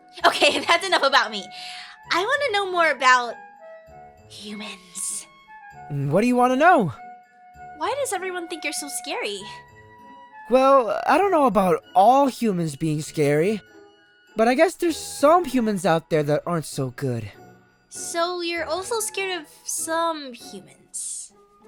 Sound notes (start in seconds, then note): 4.6 whispers